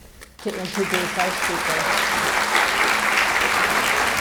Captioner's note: audience clapping